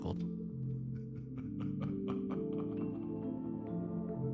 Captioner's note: laughter